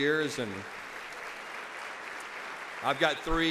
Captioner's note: audience applauds